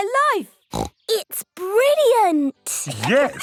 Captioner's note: laughs